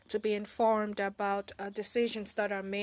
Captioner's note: speaking French